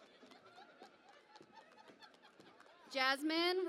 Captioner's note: cheering and Applause